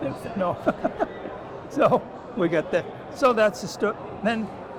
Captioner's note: laughs